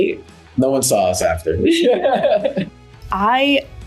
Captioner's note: laughing